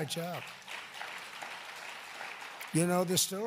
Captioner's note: applause